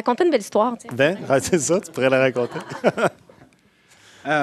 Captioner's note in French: rires